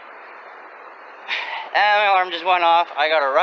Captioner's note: sigh